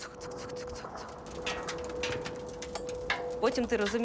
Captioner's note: metallic tinkling